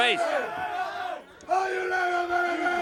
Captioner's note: crowd cheering